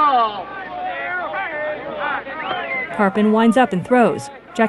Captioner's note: crowd commotion